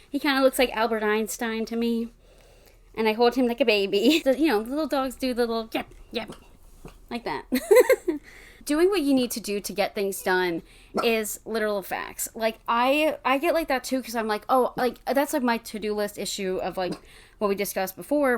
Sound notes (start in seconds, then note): 7.6 laughs; 11.0 bark in background